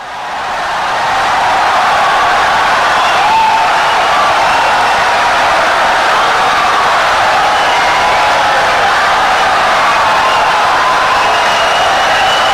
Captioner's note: wild applause and cheering for 17 seconds